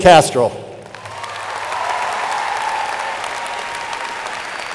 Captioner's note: audience applauding